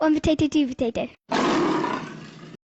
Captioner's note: tiger roaring